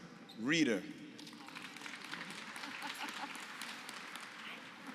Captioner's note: applause